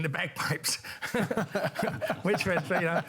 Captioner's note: laughter